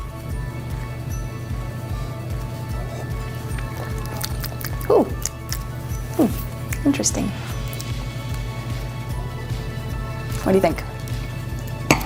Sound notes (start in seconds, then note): 4.4 smacks lips